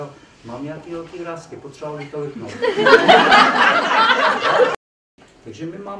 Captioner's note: laughs